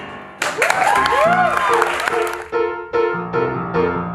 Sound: cheering, applause

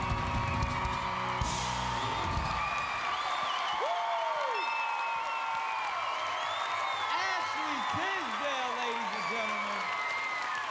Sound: cheers and applause

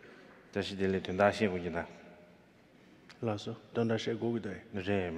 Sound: speaking in foreign language

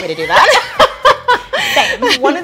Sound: laughter

